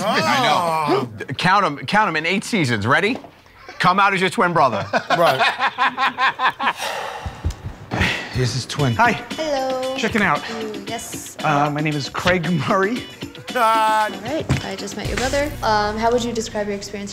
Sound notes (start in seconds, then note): 4.6 laughs